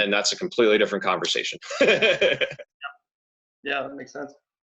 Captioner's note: laughs